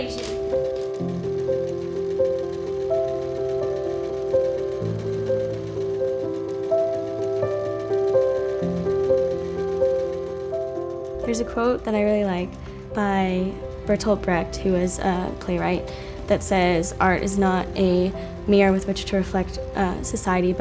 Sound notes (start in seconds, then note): 0.2 piano music; 5.4 sewing machine bobbin threading; 11.2 voiceover